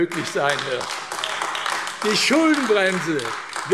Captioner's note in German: Beifall AfD